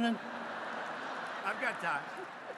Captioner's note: laughter